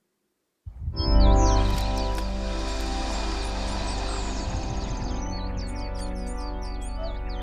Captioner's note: melancholy music; birds chirping